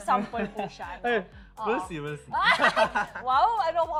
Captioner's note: laughter